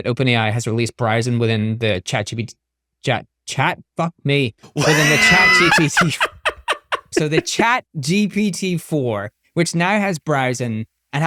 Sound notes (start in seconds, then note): 4.7 laughing